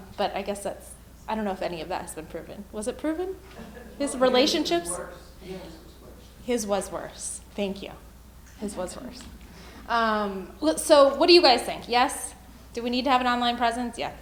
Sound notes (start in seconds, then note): 5.5 male Voice